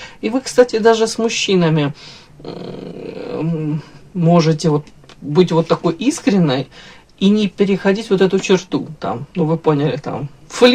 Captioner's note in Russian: фыркает